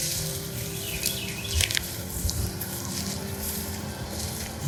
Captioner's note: birds chirping